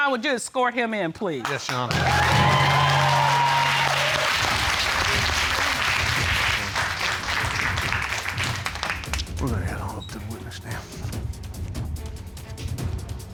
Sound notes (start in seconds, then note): 2.9 applause